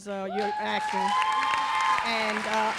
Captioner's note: audience cheering; audience applauds